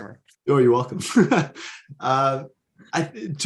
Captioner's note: laughs